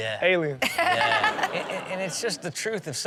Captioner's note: audience laughs